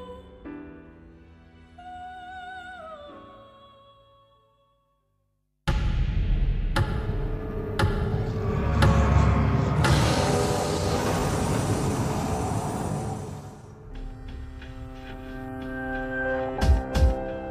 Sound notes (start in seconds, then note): 6.8 the sound of a ticking clock